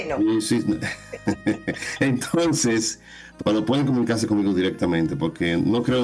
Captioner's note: laughs